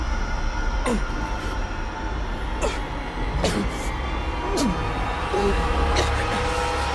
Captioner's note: Lucian grunting